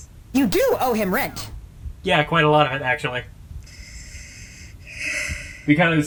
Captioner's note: long sigh